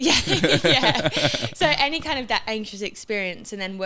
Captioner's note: laughs